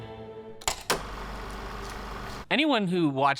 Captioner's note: film reel spinning